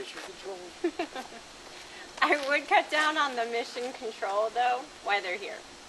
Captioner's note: laughs